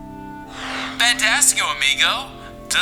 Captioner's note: shopping selection swoosh sound effect